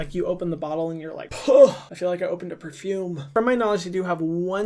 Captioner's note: exhales